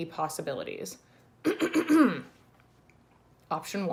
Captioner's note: clears throat